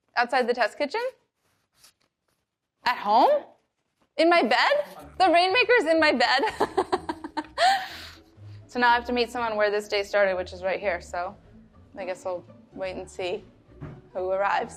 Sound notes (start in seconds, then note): 5.6 laughs